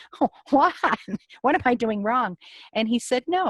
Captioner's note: laughs